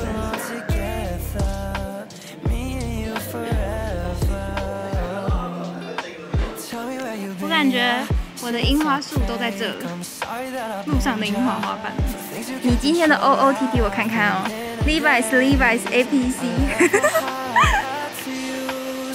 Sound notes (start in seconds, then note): 16.6 haha